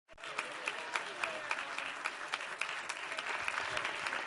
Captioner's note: applause